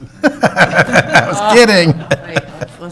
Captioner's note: council laughs